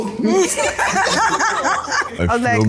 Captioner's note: laughs